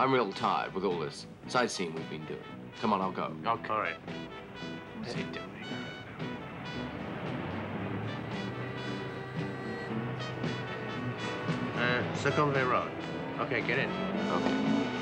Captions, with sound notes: I'm real tired with all this sightseeing we've been doing. Come on, I'll go. - Oh, all right. (traffic humming) (upbeat, jazzy music) - Eh, (mutters) road. Okay, get in. - Okay.